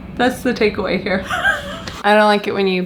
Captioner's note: laughs